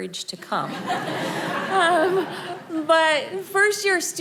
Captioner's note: audience laughing